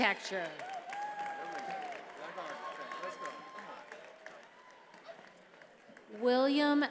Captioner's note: attendees applauding and cheering